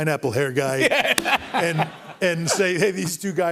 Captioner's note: laughter